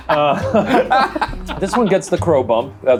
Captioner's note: laughing